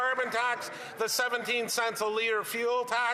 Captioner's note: applause